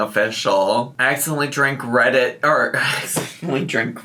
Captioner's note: sighs